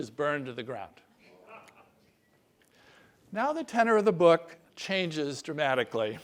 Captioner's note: laugh